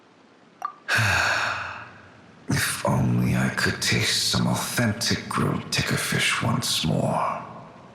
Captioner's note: sigh